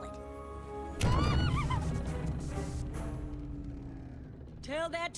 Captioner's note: all gasp